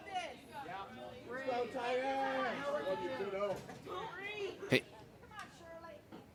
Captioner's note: crowd members yelling encouragement